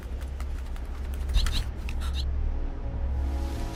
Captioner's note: bird chirping